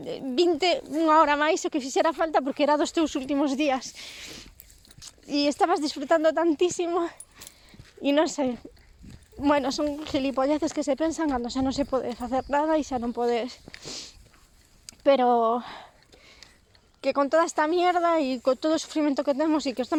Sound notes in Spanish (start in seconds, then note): 7.8 se quiebra la voz; 8.8 emocionada; 13.6 sorbe la nariz